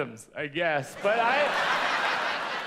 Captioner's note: audience laughs